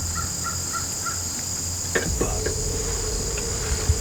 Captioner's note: whispering